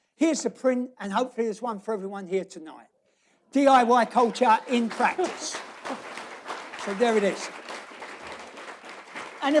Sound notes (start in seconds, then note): 3.7 applause; 5.1 laughs